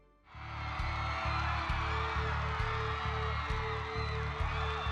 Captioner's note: cheers